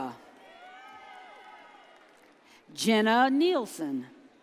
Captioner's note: audience cheers